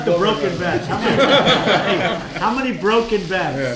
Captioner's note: laughter